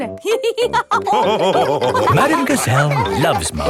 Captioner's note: all laughing